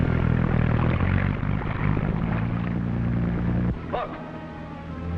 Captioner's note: engine rumbling